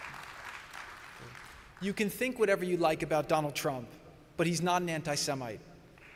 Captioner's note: applause